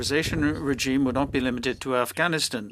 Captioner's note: speaking French